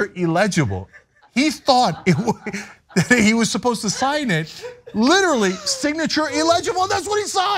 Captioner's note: laugh